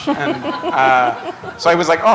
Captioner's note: laughter